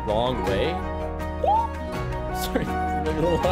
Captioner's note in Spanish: aplausos de tono alto